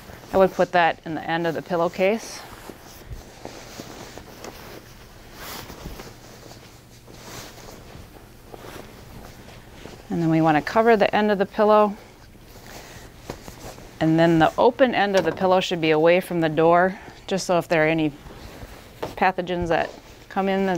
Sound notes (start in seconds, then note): 2.6 sheets rustling